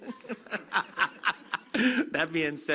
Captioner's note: laughter